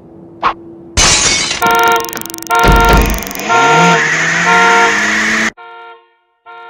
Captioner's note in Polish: trzask; alarm